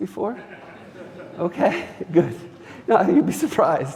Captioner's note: audience laughing